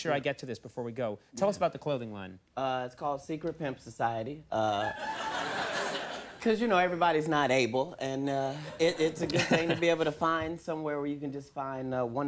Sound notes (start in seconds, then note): 4.8 audience laughing; 8.6 Conan laughing